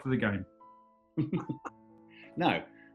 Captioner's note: chuckling